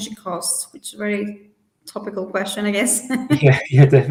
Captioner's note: chuckles